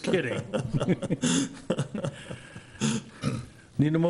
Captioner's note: laughing